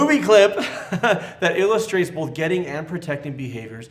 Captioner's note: laughs